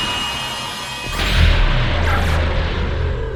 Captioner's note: multiple roars